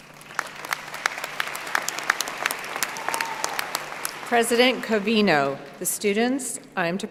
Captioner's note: applause